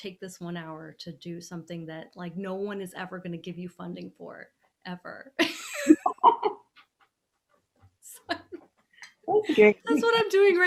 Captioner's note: laughing